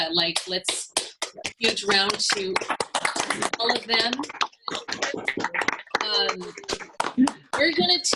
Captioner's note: applause